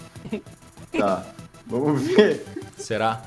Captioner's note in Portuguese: Risadas